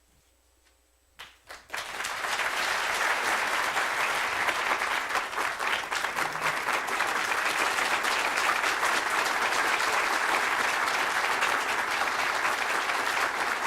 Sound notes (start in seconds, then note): 1.2 applause